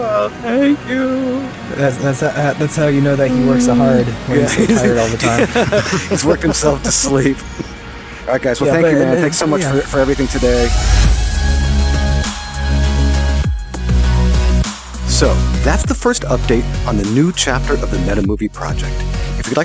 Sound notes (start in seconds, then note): 6.2 everybody laughing; 12.7 trance music